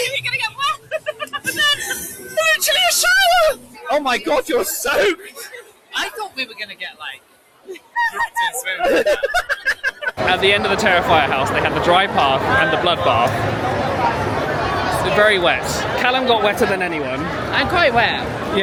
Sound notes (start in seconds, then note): 0.0 laughing; 0.6 laughs; 7.7 laughter drowns out; 8.0 laughing